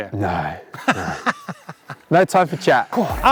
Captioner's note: laughs